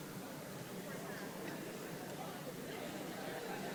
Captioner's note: crowd muttering